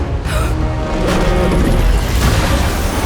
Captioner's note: dragon roars; Keyleth gasps; light whooshes